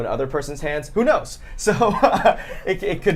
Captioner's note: laughs